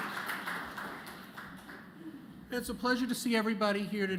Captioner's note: applause